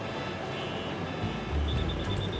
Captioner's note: cars beeping; police whistle blowing